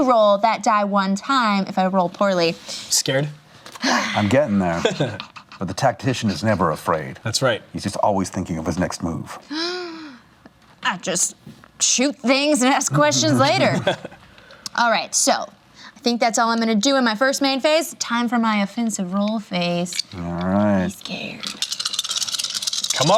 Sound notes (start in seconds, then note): 4.7 laughs; 9.5 gasps; 21.0 dice rattling